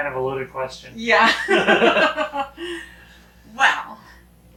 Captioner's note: both laughing